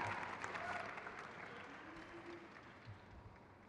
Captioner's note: crowd cheers